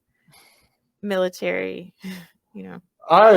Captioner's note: laughs